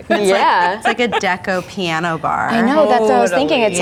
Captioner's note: laughs